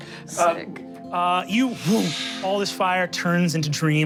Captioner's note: whoosh